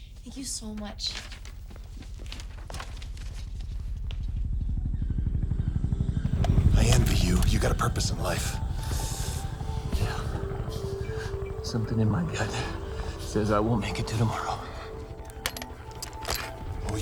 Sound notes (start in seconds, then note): 4.0 helicopter flutters